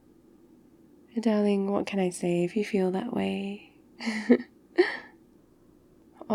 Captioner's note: laughs